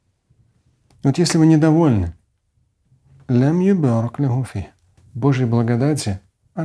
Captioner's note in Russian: говорит на арабском